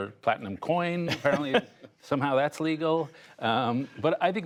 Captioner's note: laughter